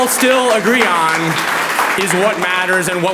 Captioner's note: audience applauds